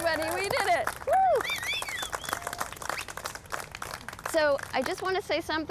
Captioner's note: whooping; cheering, whistling